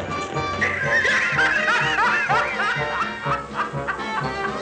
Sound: cackling

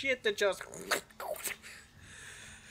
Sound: tentacle snatching sound being made with my mouth

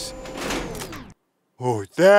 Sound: whirring

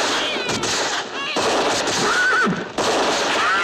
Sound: baby crying

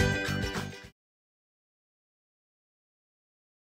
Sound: silence

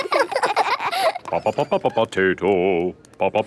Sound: children laughing; sing-song voice

